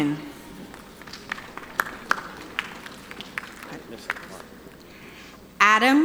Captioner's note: audience applauding